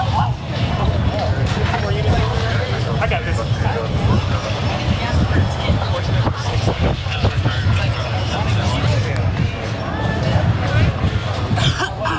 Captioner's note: cough